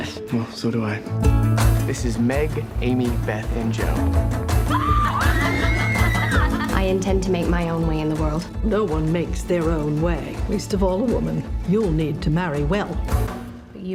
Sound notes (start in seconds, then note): 4.6 Jo shrieks; 4.6 girls shriek